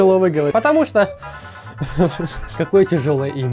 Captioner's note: giggles